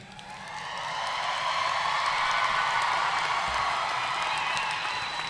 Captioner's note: audience cheering and applauding